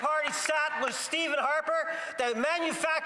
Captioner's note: applause